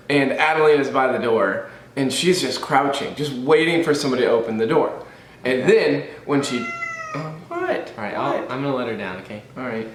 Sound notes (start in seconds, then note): 6.4 cat meows